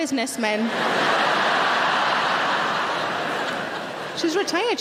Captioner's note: audience laughing